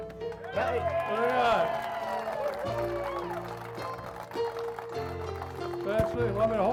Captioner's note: piano music; cheering